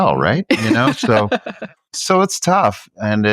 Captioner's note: chuckles